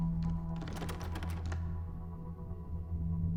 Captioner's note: doorknob rattling